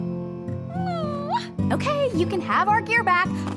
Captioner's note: sighs